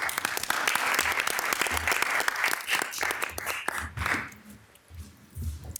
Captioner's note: city council and attendees applauding